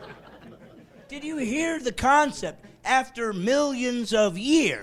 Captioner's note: laughing